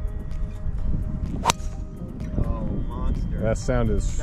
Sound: golf ball cracks

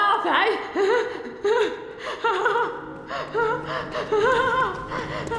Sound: manic laughter

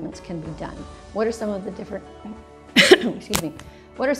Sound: coughs

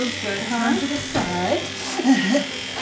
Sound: laughter

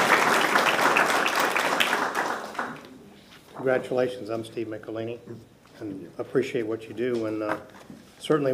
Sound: applause

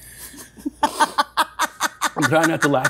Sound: Eva laughs

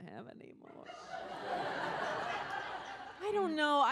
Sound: audience laughs

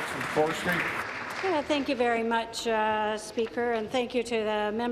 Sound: applause

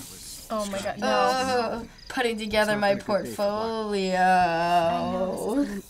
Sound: groans in disgust

